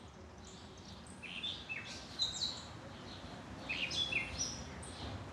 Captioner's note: birds chirping